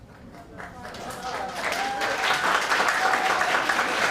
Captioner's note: applauding